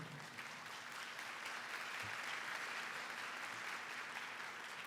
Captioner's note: applause